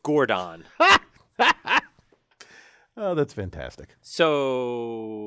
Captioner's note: laugh